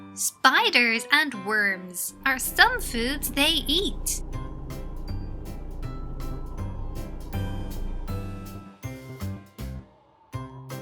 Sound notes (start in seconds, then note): 4.2 playful music; 4.2 wind whistling